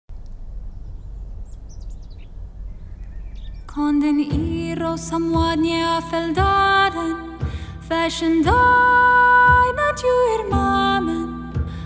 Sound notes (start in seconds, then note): 0.2 birds chirp; 3.9 sings